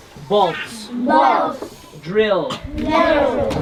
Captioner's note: kids In Unison